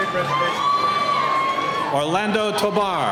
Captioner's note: cheering